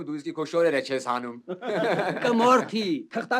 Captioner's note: haha